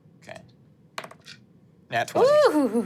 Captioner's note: dice rolling